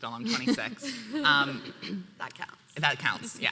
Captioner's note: laughing